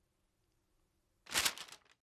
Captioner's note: shuffling paper